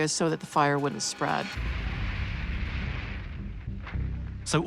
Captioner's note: house crashing